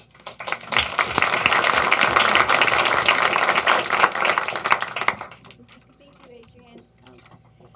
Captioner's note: applause